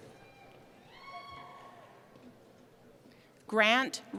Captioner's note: cheering